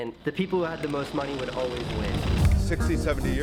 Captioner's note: air whooshing